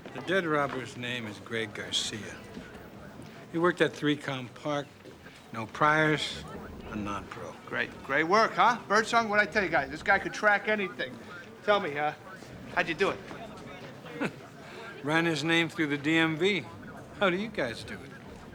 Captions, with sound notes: The dead robber's name is Greg Garcia. He worked at ThreeCom Park, no priors, a nonpro. Great. Great work, huh? Birdsong. What'd I tell you guys? This guy can track anything. Tell me, uh, how do you do it? (chuckles) Ran his name through the DMV. How do you guys do it?